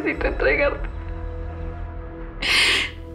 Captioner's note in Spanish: Sollozos